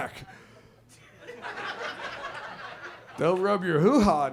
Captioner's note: audience laughs